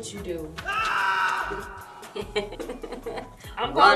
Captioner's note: laughs